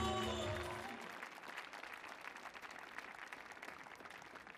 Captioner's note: audience applauding